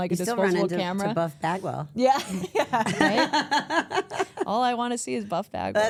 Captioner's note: laughs; everyone laughs